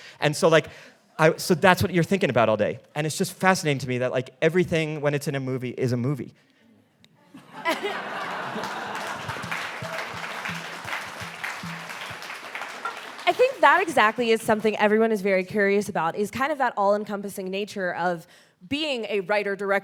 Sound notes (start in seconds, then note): 7.4 all laughing and applauding; 7.6 chuckles